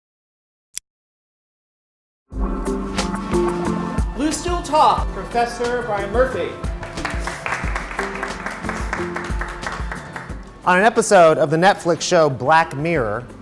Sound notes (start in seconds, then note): 5.8 crowd applauds